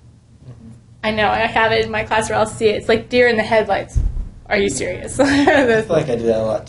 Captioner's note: laugh